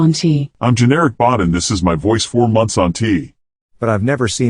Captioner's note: manly voice